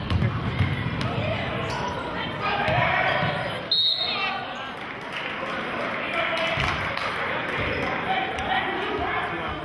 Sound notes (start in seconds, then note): 3.7 whistling; 6.4 applauding